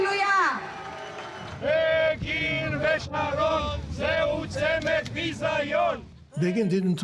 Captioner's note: chanting